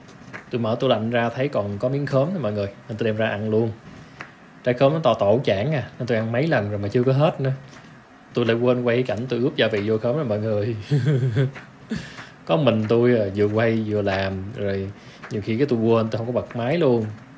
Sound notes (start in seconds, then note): 10.8 giggle in embarrassment